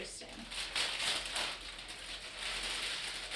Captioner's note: crinkling